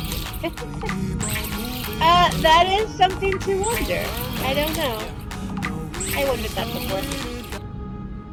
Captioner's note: laughter